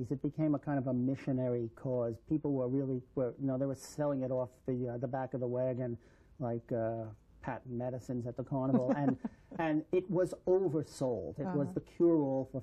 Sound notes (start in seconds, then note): 8.6 laughter